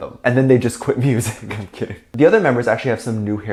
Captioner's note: laughs